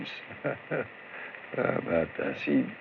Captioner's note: chuckles